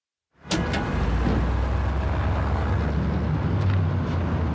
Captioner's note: street noise